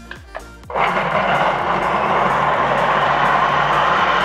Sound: blender spinning

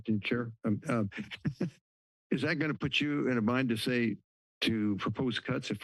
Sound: laughs

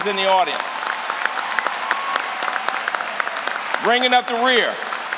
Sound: applause

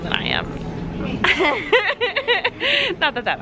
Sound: laughing

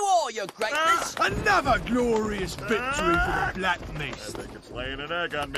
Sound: aaAAhH

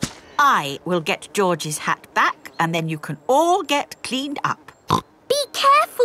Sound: snorts

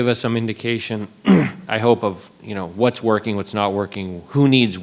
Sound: clears throat

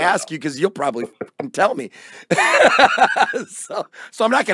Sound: laughing

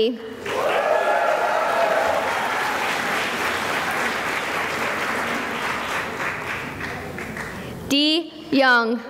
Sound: cheering and applause

